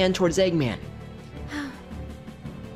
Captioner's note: sighs